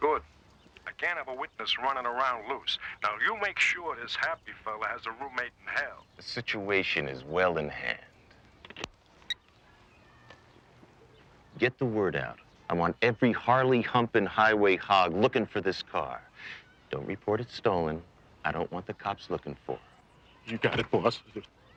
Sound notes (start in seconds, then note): 8.9 phone beeps